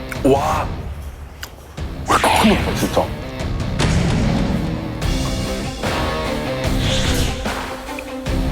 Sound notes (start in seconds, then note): 3.8 roars, then takes another sip